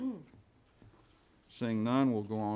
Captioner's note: woman clears throat